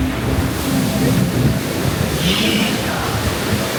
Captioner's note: water flowing